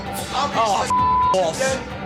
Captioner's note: beep